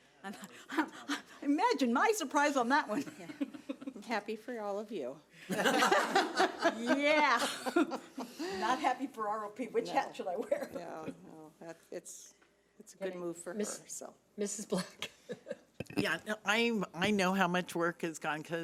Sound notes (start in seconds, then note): 0.3 laughing; 5.4 people laughing; 15.8 laughing